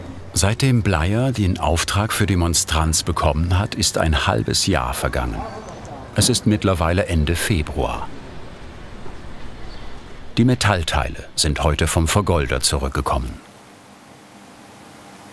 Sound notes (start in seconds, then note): 8.3 birdsong